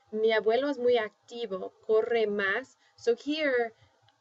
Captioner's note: speaking spanish